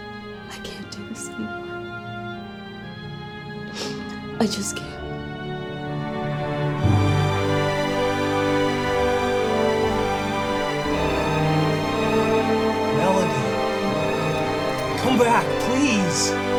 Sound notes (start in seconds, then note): 3.6 sniffles; 7.3 emotional, dramatic music